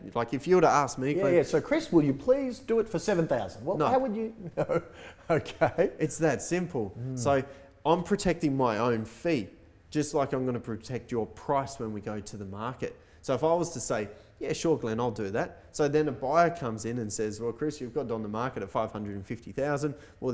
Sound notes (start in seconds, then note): 4.0 laughs